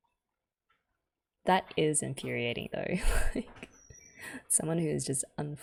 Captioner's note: laughs